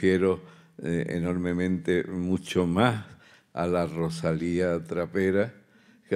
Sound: continues in Spanish

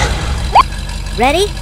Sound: beep

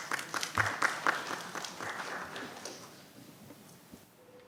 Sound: audience applauds

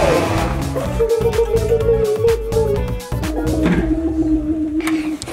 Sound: green rainbow ghost growling; switch clicks

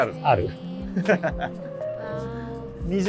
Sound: laughing

